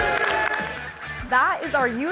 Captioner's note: applause